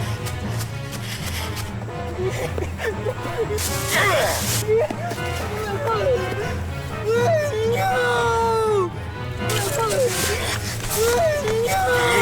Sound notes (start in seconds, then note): 4.0 angry Grunt; 7.0 yells of Terror